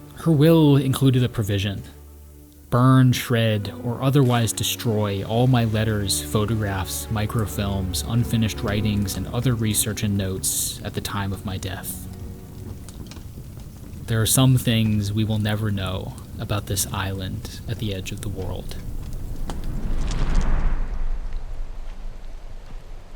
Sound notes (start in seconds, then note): 12.7 fire crackling; 18.8 air whooshing; 23.0 feet thumping